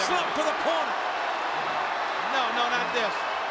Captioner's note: spectators cheering